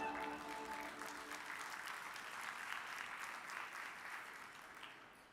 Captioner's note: audience cheers and applauds